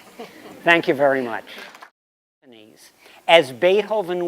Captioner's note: laughter